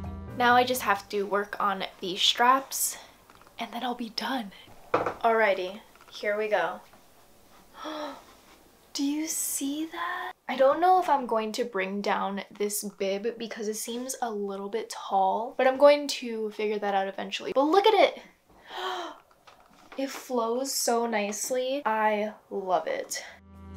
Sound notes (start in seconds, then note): 7.7 gasp